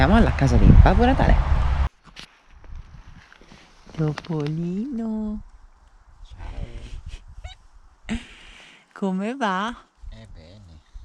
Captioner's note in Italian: risata